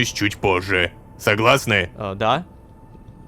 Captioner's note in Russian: шепотом